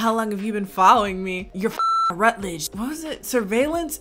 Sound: beep

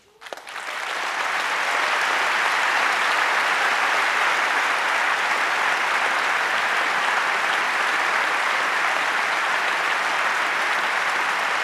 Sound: applause

